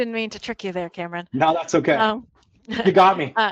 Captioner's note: chuckles